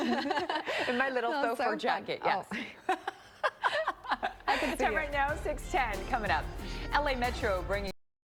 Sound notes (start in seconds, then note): 0.0 laughter